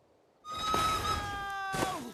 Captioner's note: train whistle shrieks